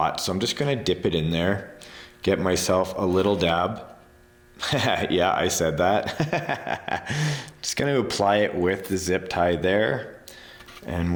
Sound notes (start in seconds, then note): 6.0 chuckling